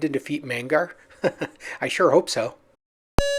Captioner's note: chuckles